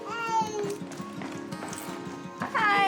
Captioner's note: murmurs